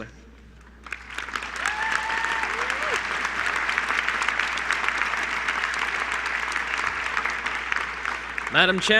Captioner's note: applause